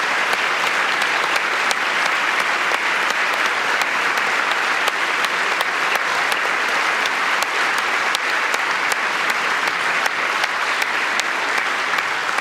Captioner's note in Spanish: aplausos